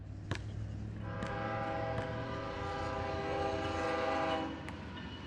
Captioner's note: train horn blaring